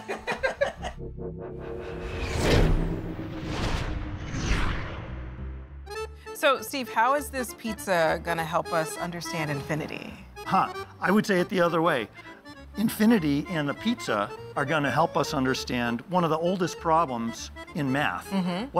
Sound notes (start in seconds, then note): 0.0 rustic Italian music; 0.0 laughter; 1.6 air whooshes